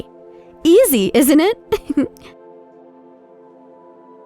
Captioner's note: laughs